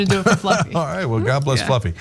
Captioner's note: laugh